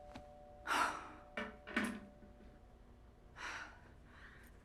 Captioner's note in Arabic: رنين جرس الباب; جوان تتنهد